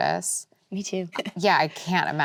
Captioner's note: laughs